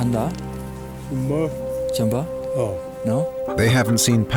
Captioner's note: speaking Chinese